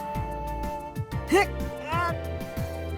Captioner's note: stretch grunt